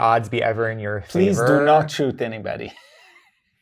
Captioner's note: laughs